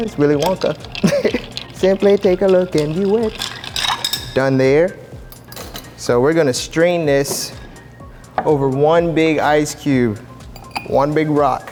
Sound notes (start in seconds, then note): 1.0 laughs; 5.7 ice scoop clanks; 10.6 ice rattles